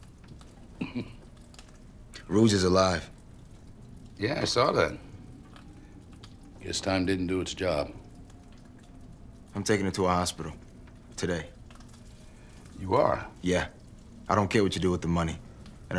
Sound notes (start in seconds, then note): 0.7 Macon chuckling